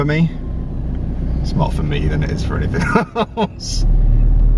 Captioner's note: laughs